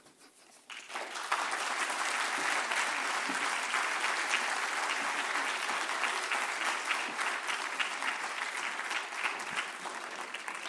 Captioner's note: applause